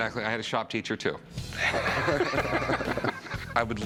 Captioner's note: laughter